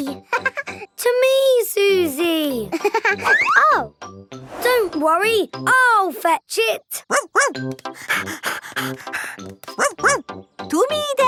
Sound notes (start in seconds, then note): 2.8 giggling; 7.8 panting